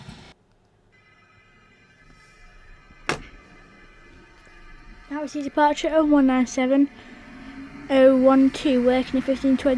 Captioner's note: thud